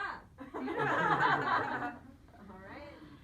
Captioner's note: laughs